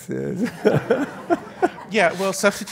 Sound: audience laughs

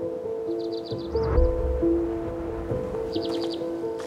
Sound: birds chirping

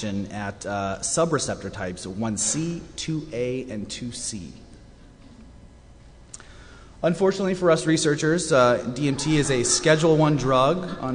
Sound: eerie cackling from audience

